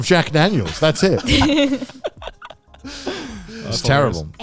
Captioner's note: all laughing